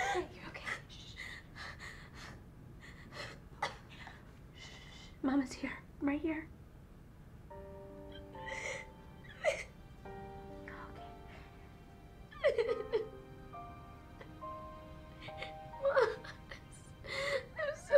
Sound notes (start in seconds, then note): 7.4 solemn music; 12.3 loud sobbing